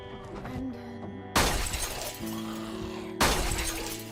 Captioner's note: window breaks